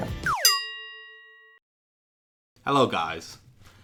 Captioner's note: bell